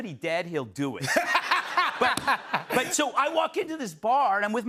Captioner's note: laughter